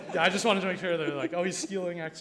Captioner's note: people laughing